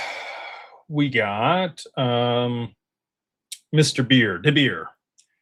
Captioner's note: sighs